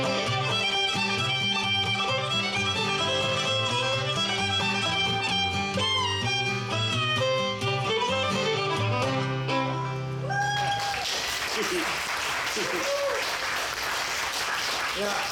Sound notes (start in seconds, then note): 10.3 audience applauds and cheers; 12.3 laughs